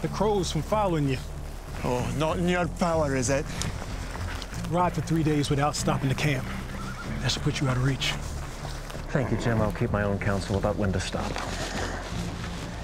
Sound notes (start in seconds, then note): 3.9 stewart with scottish accent